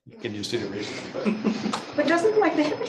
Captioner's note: laughs